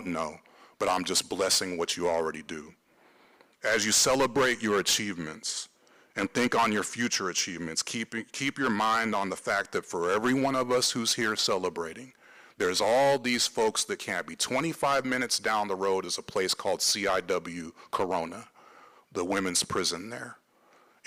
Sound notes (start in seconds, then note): none